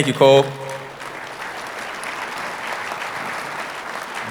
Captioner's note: audience applauding